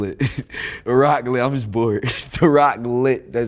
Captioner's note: laughs